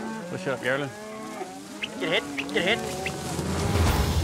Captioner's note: mooing; whistling